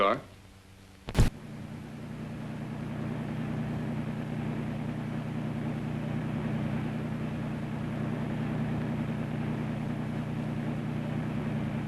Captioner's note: car rumbles